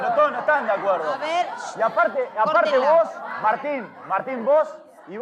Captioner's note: shouting, Discussion